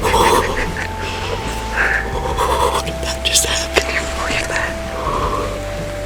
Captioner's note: excited breathing